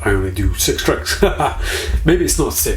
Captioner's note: laughing